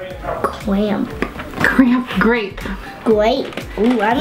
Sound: giggles

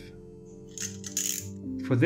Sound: sound of utility knife being opened

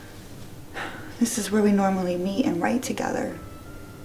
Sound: sighs

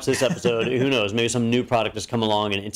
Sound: laugh

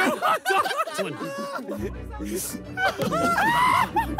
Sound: players laugh

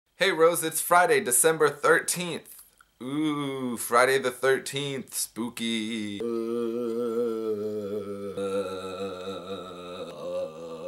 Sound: zombie sounds

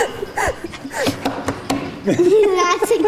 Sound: laughs; bangs hand on table

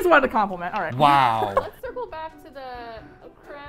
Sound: chuckles

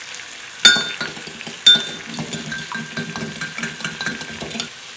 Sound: fork clinking on glass

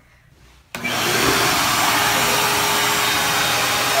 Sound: vacuum rumbling

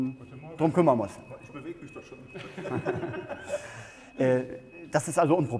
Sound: device beeps

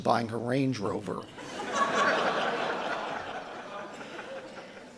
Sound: audience laughing

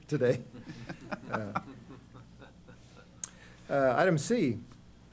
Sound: laughter

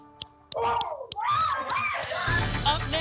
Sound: cheering

